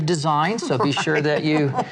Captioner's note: laughs